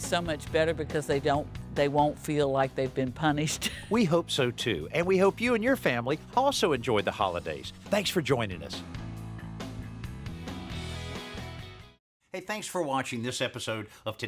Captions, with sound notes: much better because they won't feel like they've been punished. [ Laughs ] We hope so, too, and we hope you and your family also enjoy the holidays. Thanks for joining us.